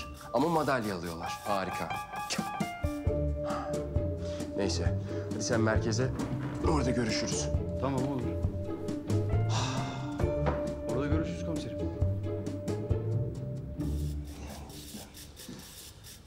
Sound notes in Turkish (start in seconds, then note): 9.5 Nefes sesi